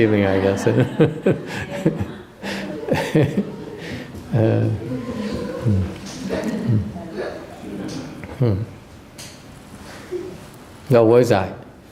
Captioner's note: laughter